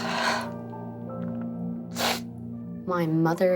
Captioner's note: sniffles